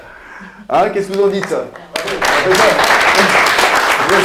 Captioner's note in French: clap, clap, clap